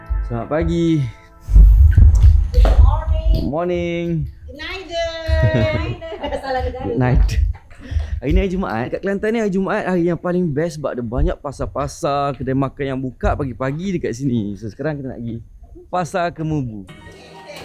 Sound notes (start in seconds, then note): 5.0 laugh